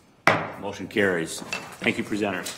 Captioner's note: gavel bangs